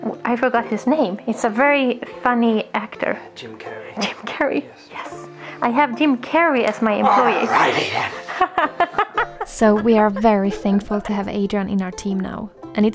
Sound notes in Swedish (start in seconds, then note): 7.0 Skratt